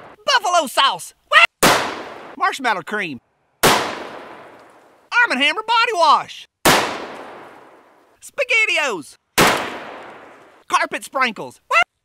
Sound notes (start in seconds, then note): 0.0 gun fires; 1.6 gun fires; 3.6 gun fires; 6.6 gun fires; 9.3 gun fires